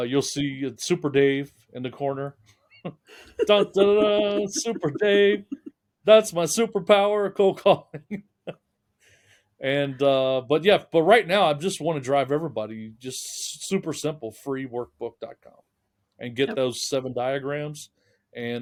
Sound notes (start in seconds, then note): 2.8 laughing; 7.3 laughing